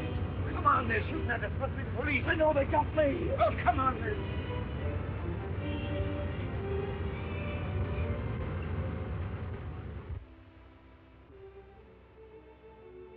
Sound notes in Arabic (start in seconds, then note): 4.8 هدير النيران; 5.8 موسيقى تشويقية; 10.6 موسيقى هادئة